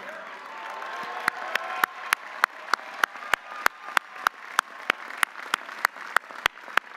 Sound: audience cheering; audience applauding

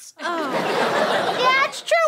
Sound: audience laughter

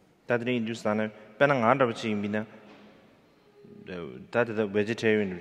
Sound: speaking in foreign language

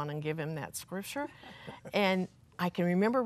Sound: laughter

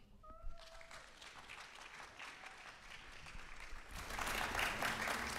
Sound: applause

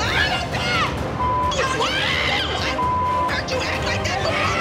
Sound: yells; both yelling

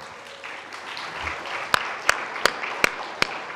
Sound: all applauding

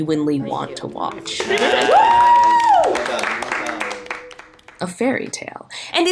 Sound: group applauding

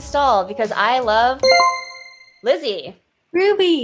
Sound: chime rings

